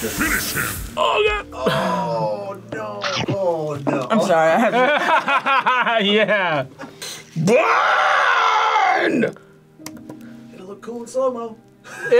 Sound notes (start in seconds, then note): 3.0 chomps; 6.0 laughs